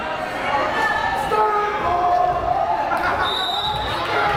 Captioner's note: crowd cheering